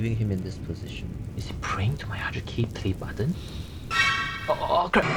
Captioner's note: breaths in